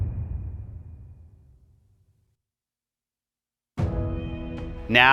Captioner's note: dramatic sound